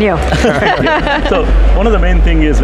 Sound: group laughs

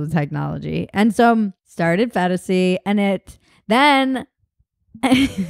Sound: laughs

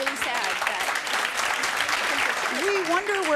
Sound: clapping

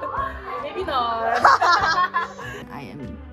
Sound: laughs

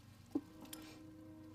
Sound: sniffling; thump; sniffling

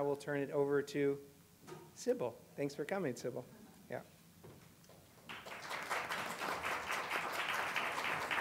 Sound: applause

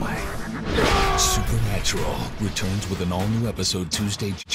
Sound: Gadreel/Sam screams

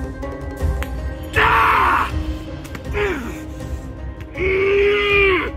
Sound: screaming

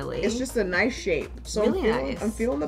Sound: none

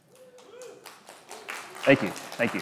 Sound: audience clapping

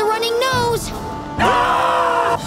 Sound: screaming

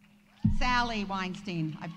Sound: audience applauding

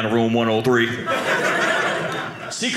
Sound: audience laughing

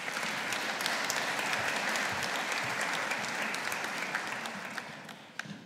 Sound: audience applauding

